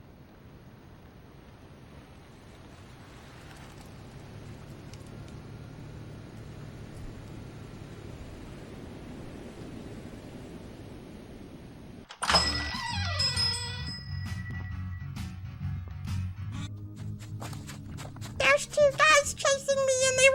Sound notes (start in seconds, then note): 0.1 car pulls into parking space with wind blowing in the background; 12.1 door opens as a bell rings overhead; 13.8 overlapping footsteps happen as plays; 16.9 snowy footsteps drawing closer